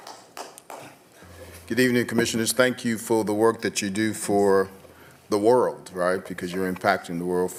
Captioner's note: applause